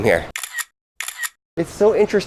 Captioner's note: camera clicking